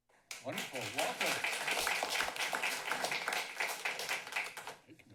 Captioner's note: applause